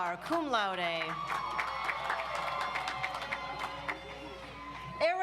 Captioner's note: audience applauds